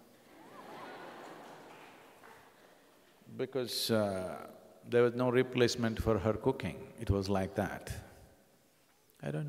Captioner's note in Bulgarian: Смях